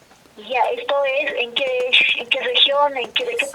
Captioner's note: voice on the phone